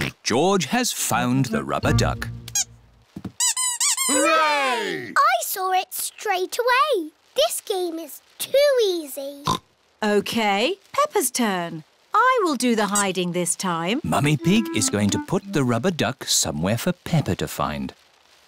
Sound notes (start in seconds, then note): 2.6 duck squeaks; 9.3 oinks